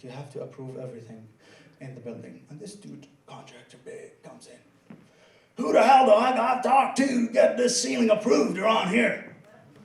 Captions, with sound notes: You have to approve everything in the building. And this dude, contractor, big, comes in. (in a gruff Southern accent) "Who the hell do I gotta talk to to get this ceiling approved around here?"